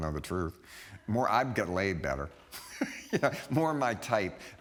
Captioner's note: laughing